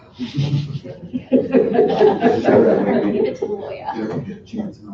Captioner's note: laughter and group chatter